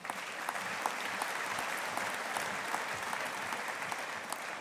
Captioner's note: audience applauding